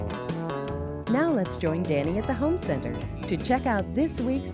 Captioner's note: upbeat music; voiceover